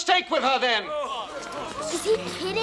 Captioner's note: people groaning